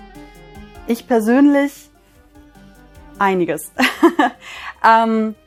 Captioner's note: laughs